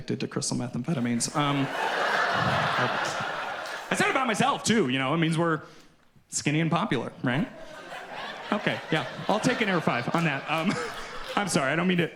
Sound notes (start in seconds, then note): 3.1 audience laughs; 9.0 audience continues laughing